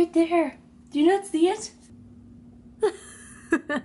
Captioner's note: laughs